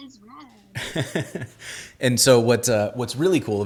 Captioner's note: laughing